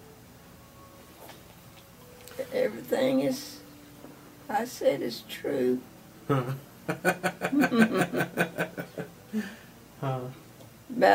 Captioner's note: laughs